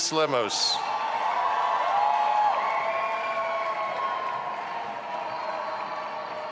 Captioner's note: audience applauding and cheering